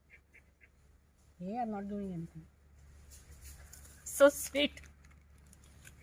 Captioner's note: talking to monkeys in Hindi